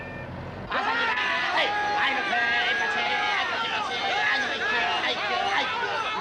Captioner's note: auctioneer’s voice